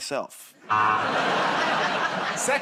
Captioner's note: laughter, buzzer